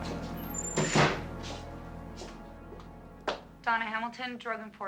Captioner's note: door slamming